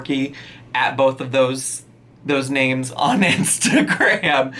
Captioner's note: laughing